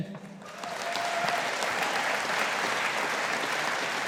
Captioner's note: audience applauding